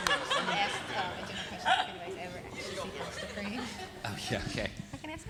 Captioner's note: audience applauds; audience cheering; indistinct conversation